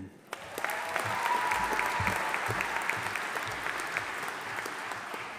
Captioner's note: audience applauding